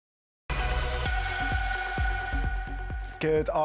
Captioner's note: newsroom chime